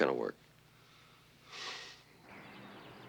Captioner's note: sigh